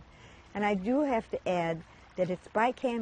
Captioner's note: water rippling